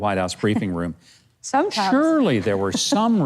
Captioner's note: laughs